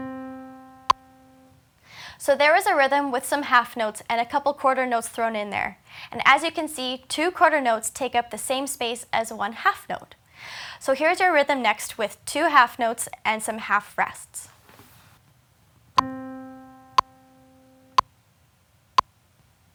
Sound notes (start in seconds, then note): 16.7 metronome